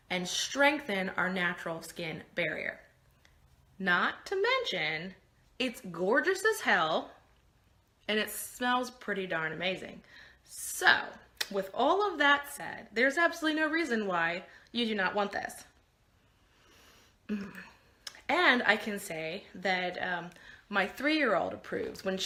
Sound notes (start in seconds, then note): 16.4 smelling